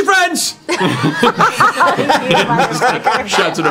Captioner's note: laughter